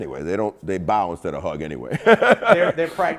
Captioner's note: laughing